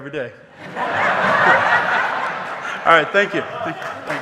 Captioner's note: audience laughing